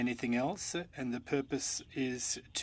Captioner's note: speaking French